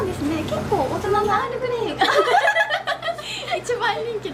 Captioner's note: laughs